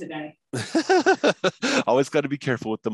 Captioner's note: laugh